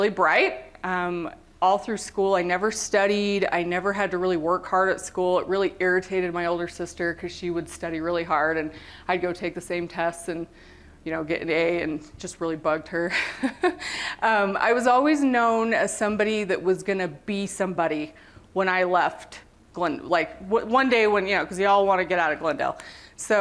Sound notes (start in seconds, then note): 13.1 laughter